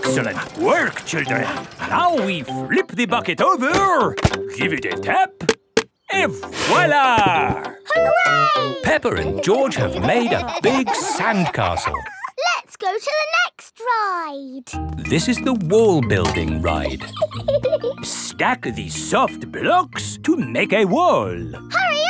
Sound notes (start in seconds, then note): 8.0 laughing; 16.6 laughs